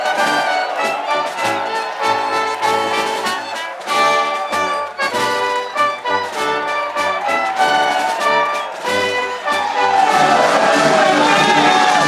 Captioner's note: applause